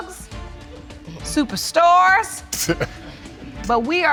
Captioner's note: chuckles